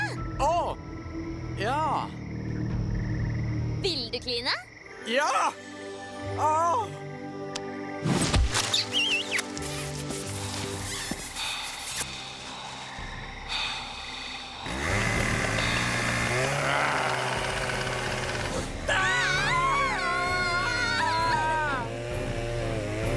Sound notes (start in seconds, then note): 8.6 kissing; 13.4 inhales sharply; 14.6 chain saw revving; 18.8 screaming